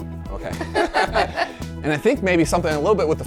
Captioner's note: group laughing